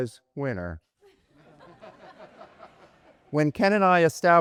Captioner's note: audience chuckles